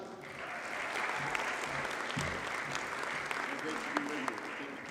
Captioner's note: audience cheers and applauds